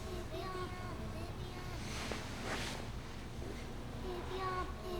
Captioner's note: child's voice echoes